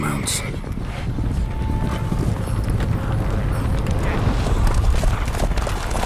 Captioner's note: hoofbeats approaching